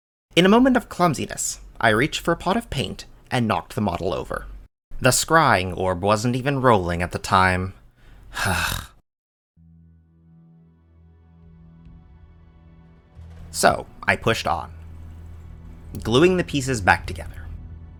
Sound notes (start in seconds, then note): 12.8 sigh